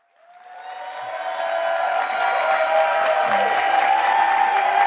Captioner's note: audience applauds